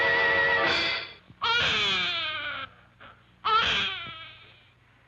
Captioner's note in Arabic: صراخ الطفل